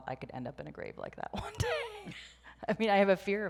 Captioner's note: laughs